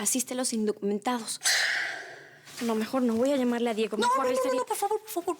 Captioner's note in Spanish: adriana exhala